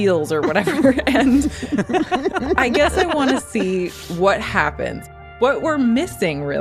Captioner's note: laughs